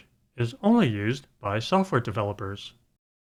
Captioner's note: none